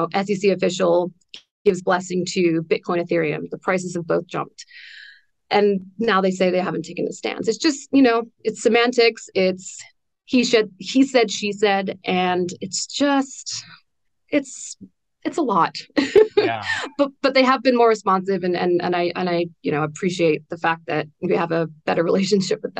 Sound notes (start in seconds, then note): 15.9 laughs